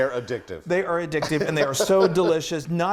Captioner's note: laughs